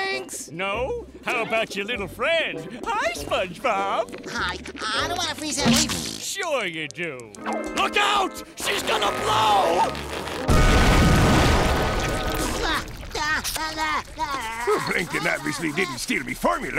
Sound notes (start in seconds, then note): 12.7 groaning